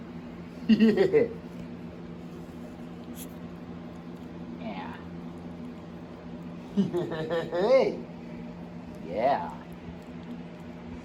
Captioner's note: Ella laughs